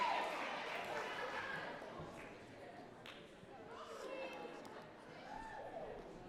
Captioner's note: audience cheering and clapping